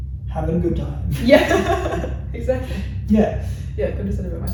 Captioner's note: laughs